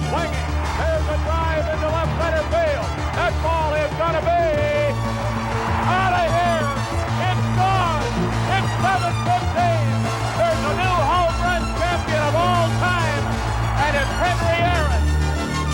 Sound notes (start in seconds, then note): 0.8 crowd cheering; 8.0 crowd cheering; 15.5 dramatic music continues